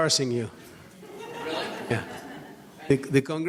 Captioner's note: audience laughs